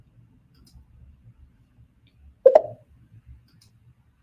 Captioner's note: mouse clicking